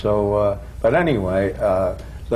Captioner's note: none